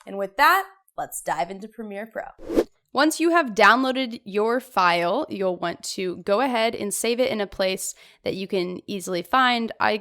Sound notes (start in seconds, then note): 2.4 swoosh